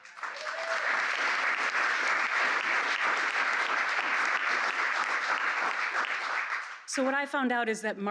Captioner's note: applause